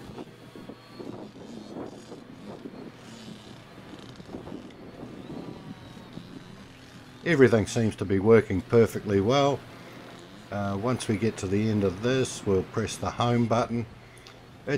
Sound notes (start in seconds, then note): 0.7 motor bike engine revving; 3.4 wind blowing; 5.6 drone engine running